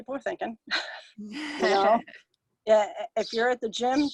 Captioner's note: both chuckling